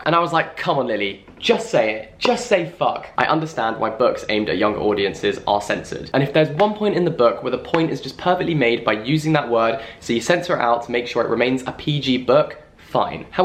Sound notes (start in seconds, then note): none